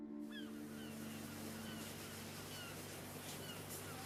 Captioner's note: seagulls squawking